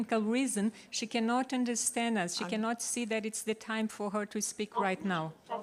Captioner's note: speaks Portuguese